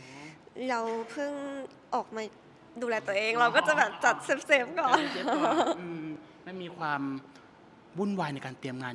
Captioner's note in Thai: เสียงหัวเราะ